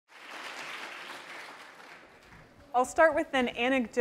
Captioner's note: applause